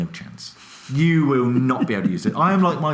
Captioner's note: laughs